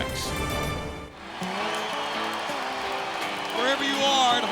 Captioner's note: audience cheering